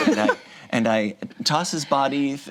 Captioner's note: group laughs